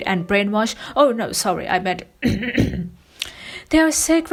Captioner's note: coughs